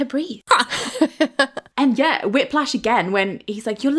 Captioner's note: laughing